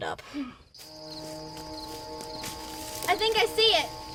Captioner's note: Betty sighs